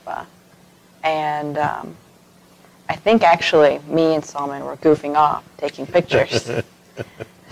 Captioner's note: laughter